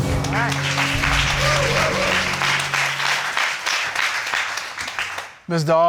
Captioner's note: crowd applauding